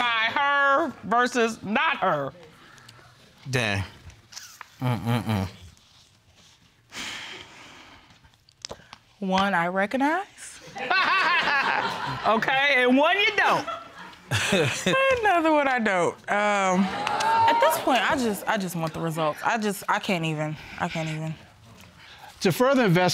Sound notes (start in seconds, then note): 7.9 sighs nervously; 13.4 laughs; 14.3 chuckles